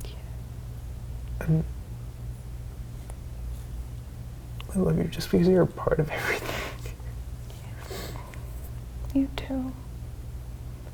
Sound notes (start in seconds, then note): 7.0 quiet laughing